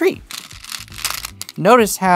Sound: stones rattling

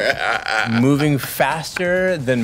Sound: laughing

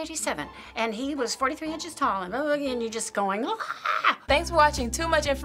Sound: screaming

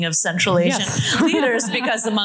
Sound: laughter

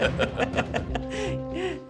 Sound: laughing

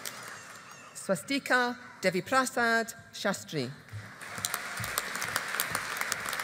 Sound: audience applauding

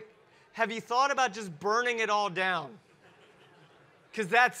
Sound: audience chuckle

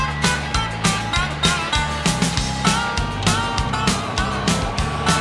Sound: train chugging

